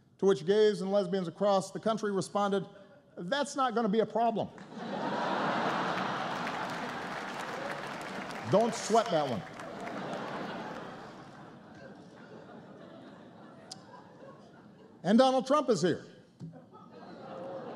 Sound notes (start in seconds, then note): 5.3 laughter and applause; 13.9 laughter